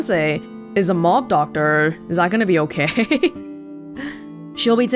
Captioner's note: chuckles